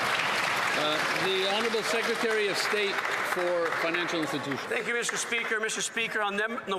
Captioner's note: some Applause